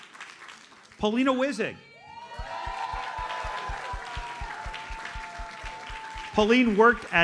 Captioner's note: audience cheers and applauds